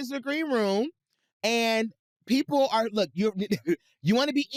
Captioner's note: chuckles